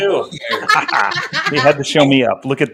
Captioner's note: laughter